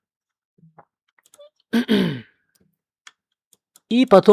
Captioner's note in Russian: вздыхает; откашливается